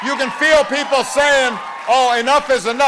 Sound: cheering and applause

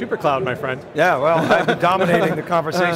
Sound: laughs

